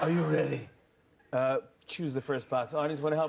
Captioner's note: normal voice